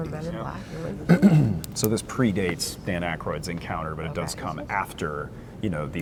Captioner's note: clears throat